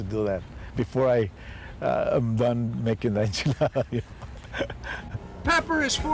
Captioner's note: laughs